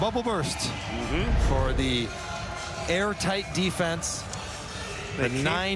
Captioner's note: cheering